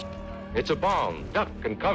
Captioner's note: radio Announcer